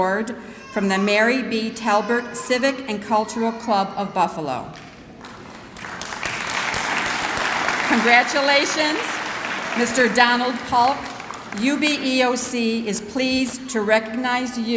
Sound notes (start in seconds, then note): 5.2 clapping